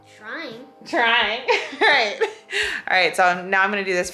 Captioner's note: laughs